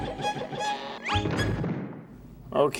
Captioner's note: crash!